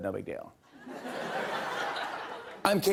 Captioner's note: laughter